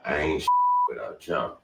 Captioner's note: beep